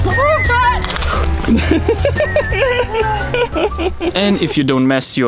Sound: laughing

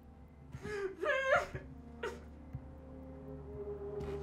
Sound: muffled sobbing

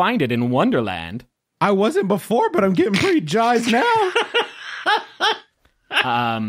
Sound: laughing

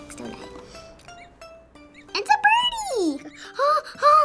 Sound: chick chirps

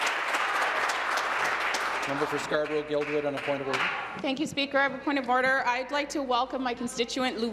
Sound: applause

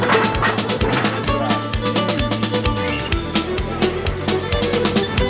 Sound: train chugging

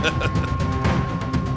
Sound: laughing

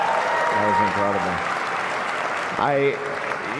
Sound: applause

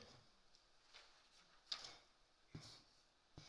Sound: paper rustling

